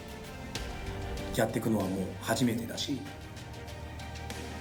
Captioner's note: speaking foreign language